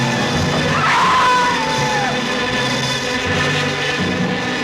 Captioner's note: screaming